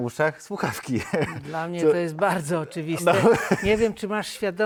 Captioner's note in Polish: śmiech